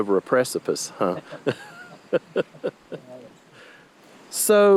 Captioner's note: both laughing